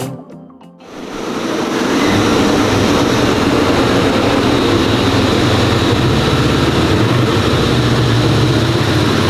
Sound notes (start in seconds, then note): 1.0 ATV engine roaring